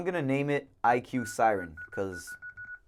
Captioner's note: beeps